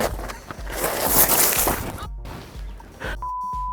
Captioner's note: gravel crunching; exhales